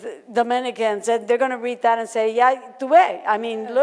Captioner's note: in foreign language